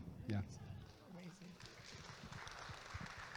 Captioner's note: audience claps